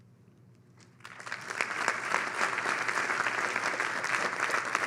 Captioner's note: audience clapping